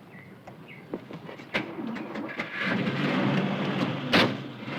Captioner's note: car engine roaring